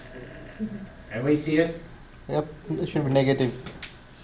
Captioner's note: voiceover